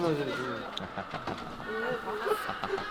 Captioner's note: nya ha ha ha ha ha